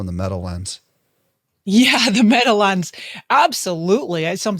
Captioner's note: laughs